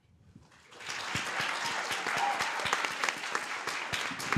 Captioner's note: applause